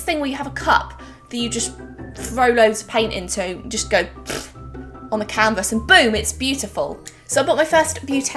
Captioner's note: pbblt